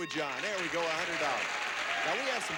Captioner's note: audience applauding